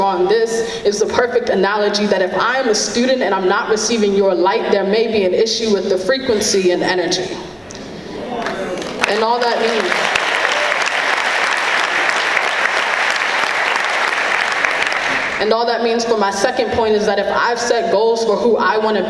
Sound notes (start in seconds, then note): 13.3 clapping